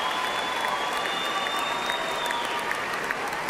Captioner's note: applause